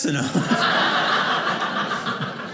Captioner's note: audience laughing